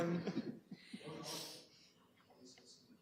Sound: laughter; background chatter

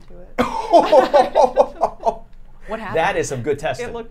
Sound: all laughing

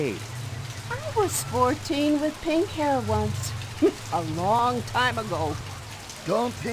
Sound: snickers

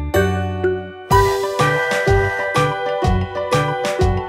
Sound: train toots

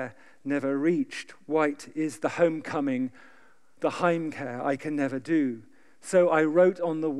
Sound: german

